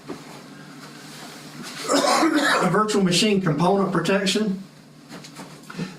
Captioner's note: cough